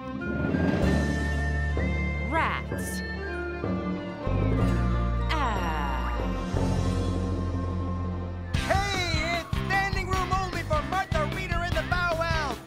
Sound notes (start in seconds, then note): none